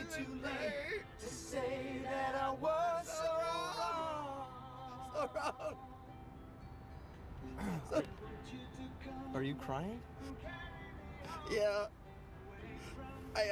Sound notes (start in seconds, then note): 4.9 crying; 7.4 sobbing